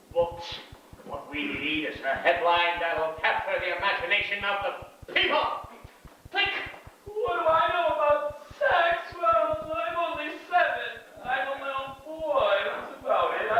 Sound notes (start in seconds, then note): 5.6 click